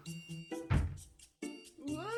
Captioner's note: door forecly opened